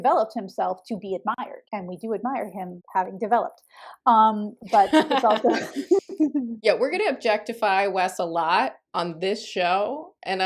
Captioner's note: laughter